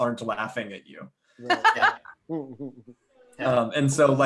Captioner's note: laughs